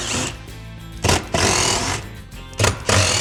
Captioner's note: drill whirring